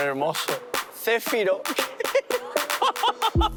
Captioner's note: laughs